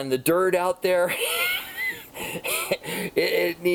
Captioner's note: laughs